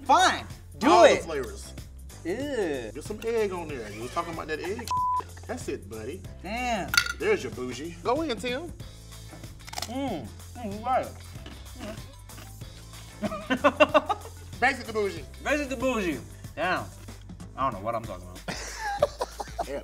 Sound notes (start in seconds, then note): 4.8 beep; 9.6 bread crunches; 13.2 laughs; 18.4 laughs